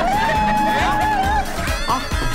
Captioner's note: cheering